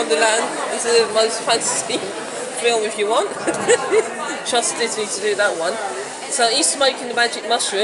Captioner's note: laughs; laughs